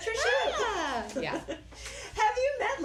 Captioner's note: excited squealing